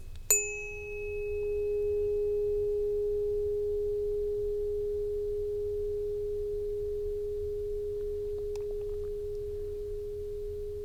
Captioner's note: bell Ring